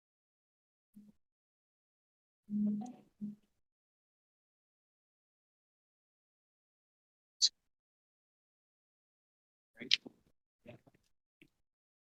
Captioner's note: audio dropout